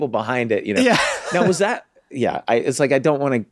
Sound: laughs

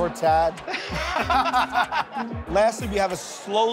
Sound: laughter

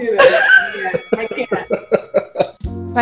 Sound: boxing match bell

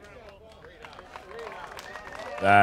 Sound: cheers

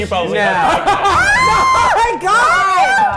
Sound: screaming

